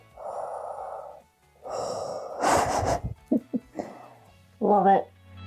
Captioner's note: heavy Darth Vader breathing